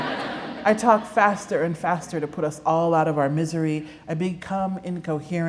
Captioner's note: laughter